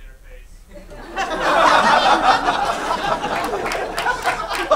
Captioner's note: laughing